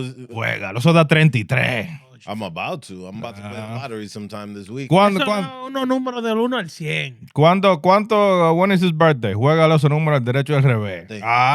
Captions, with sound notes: about to. I'm about to put a lottery sometime this week. (Speaking Spanish) How